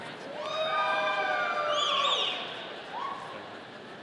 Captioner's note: audience cheering